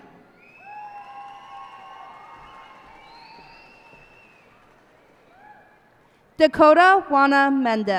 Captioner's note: cheers and applause